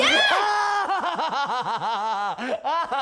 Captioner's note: laughing